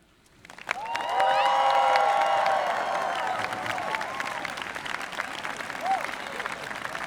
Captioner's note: audience applauding; audience cheering